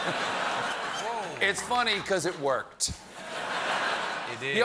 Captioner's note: laughter